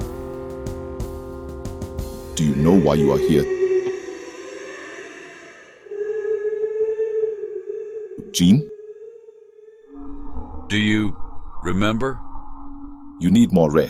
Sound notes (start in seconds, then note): 6.3 Background voice yelling “Gene”; 10.6 creepy sounds